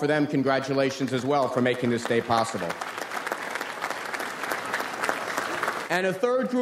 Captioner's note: audience applauds